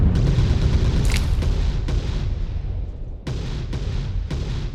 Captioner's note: bomb booming; gunfire blasting continues